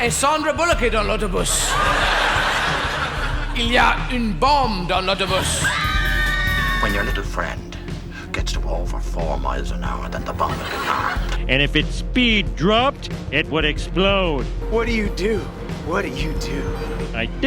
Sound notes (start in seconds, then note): 5.3 screams